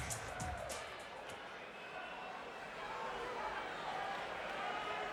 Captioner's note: fans cheering